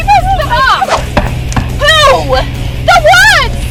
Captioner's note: thuds